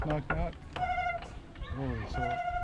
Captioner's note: door creaking